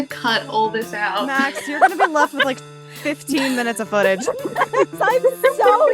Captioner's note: laughing